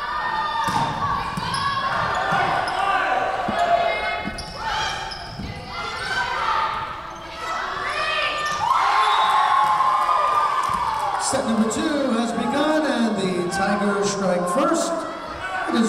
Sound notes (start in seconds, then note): 9.0 whistle blowing; 9.1 Tigers cheering